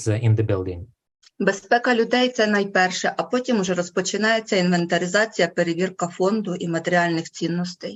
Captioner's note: foreign Language Spoken